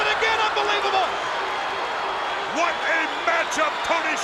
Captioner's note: spectators cheering